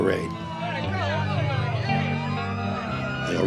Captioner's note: siren wailing